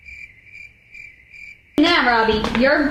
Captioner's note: crickets chirping